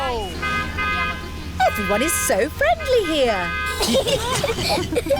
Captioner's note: honking; italians honk back; all giggling